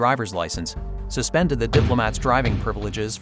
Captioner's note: bangs